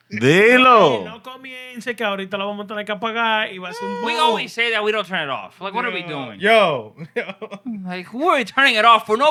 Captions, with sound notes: De lo. (Non-english Speech) We always say that we don't turn it off. Like, what are we doing? Yo. Like, who are we turning it off for?